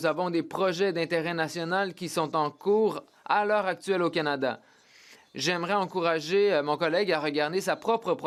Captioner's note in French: voix de l'interprète